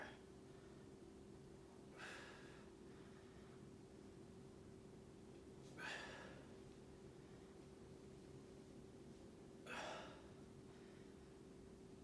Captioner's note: inhaling and exhaling